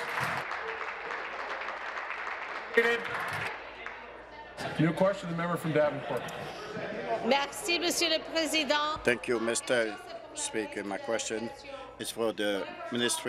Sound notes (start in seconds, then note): 3.0 applause; 10.8 speaking in French